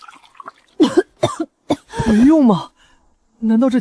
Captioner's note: cough